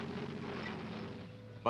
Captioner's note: tank engines growls